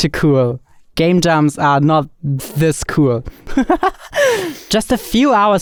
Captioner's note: laughs